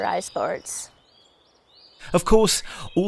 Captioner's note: birds chirping